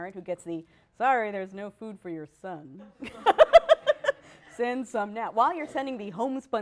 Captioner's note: laughter